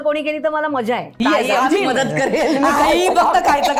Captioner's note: laughter